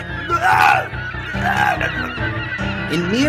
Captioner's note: Louie groaning